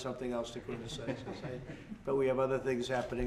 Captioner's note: laughter